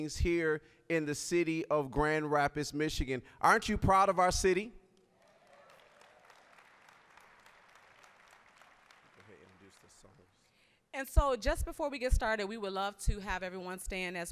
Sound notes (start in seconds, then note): 5.0 applause